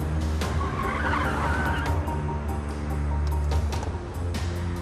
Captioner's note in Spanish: chirrido de llantas